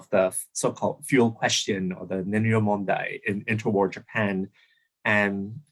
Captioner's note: japanese